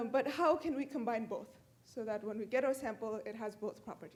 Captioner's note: none